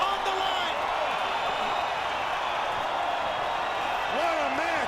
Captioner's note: crowd cheering